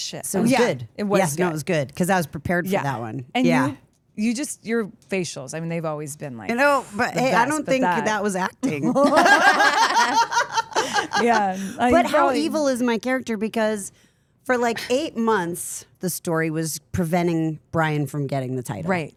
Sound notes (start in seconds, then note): 8.6 group laughs